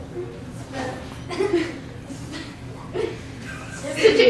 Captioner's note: students giggling